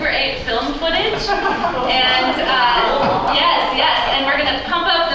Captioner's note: crowd oos